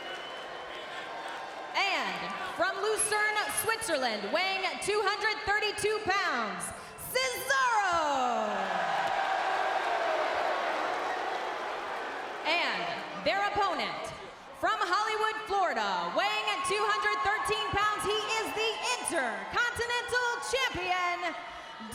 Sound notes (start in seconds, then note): 8.3 audience booing